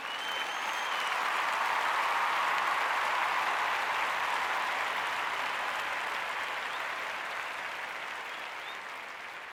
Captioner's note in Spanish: Aplausos